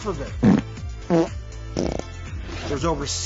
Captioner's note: fart noises